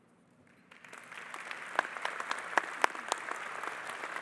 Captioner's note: audience applauding